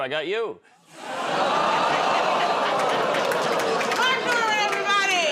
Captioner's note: audience "Oh"s